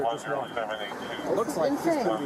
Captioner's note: radio chatter